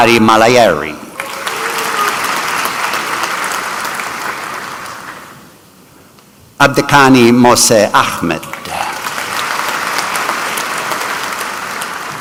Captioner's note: applause